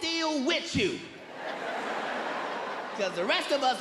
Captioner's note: audience laughing